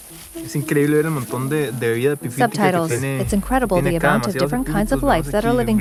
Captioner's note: speaking in a foreign language